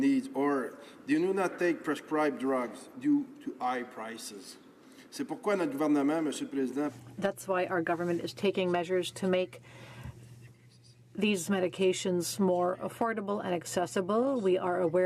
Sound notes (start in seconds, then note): 8.6 speaking French